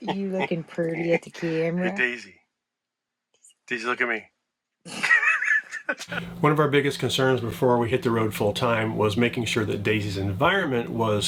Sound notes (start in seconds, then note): 4.8 laughs